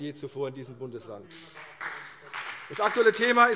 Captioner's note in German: Beifall CDU und BÜNDNIS 90/DIE GRÜNEN